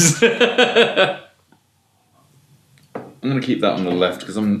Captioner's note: laughs